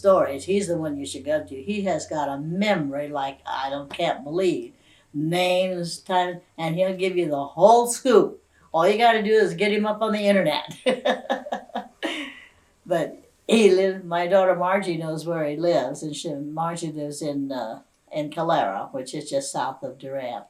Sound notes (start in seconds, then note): 13.4 laughs